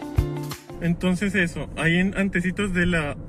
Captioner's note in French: en espagnol